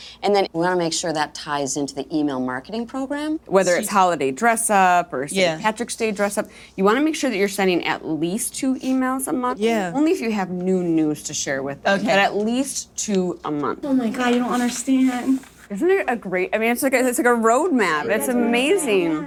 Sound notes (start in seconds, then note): none